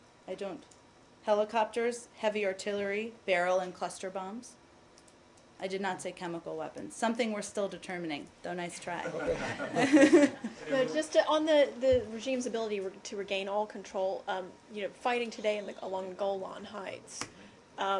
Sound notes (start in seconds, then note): 9.0 laughter